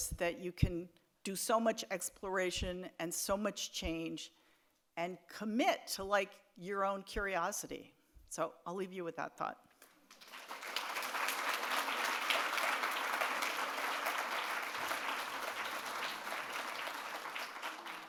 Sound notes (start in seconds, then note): 10.0 audience applauds